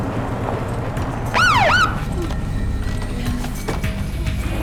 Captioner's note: car engine humming; siren blaring